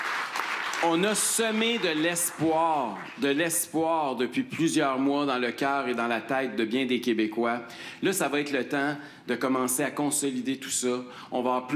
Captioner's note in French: applaudissements